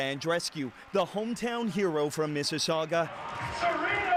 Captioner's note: cheers and Applause